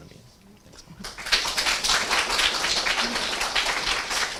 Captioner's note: applause